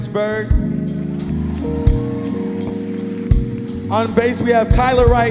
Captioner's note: audience cheering and applauding